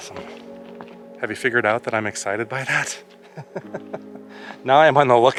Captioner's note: laughter